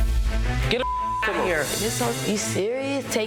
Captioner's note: beep